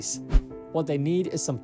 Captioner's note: screen swishes